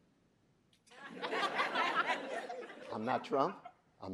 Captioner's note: audience laughing